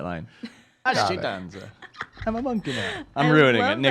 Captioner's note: laughs